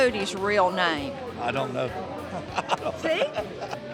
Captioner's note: chuckling